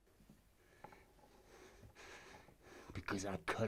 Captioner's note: man at Door breathing heavily